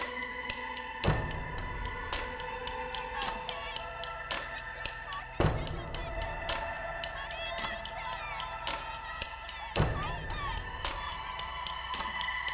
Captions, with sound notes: - (muffled shouting) Bill Cosby is a rapist! (muffled shouting)